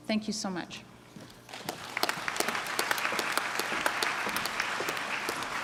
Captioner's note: clapping